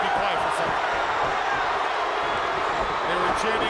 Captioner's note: crowd roaring